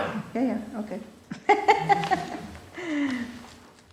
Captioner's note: laughter